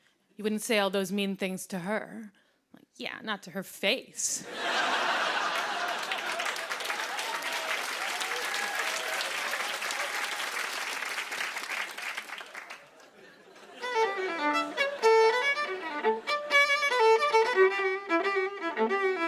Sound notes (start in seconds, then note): 4.4 laughter and applause; 7.5 cheering; 12.8 laughter; 13.8 playing jaunty tune